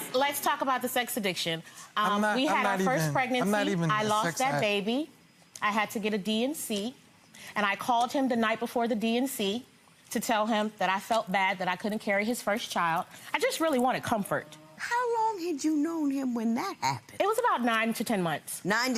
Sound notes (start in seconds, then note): none